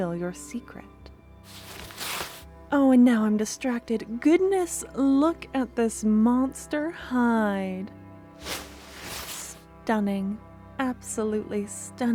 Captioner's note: leather noise